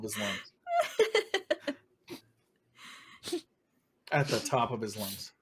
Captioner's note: Hope laughs